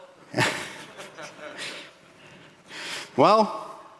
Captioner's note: laughing